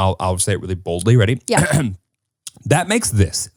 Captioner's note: clears throat